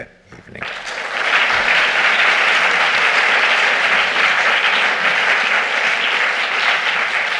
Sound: applause

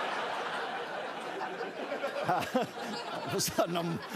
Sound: laughter

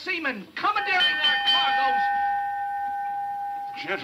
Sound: bell ringing

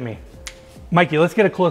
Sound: snaps

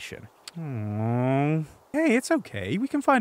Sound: disappointedly

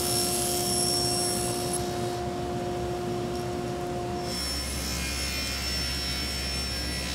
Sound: saw engine whirring; saw brattling

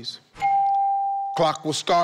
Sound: tone dinging

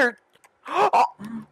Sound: gasp as he almost gets dicks himself

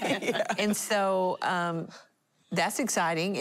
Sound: laughing

